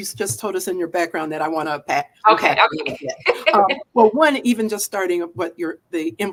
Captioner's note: laughter